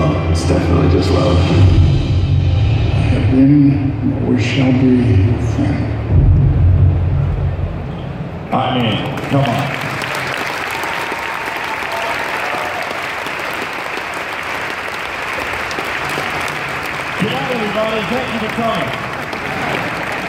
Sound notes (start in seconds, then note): 9.6 applause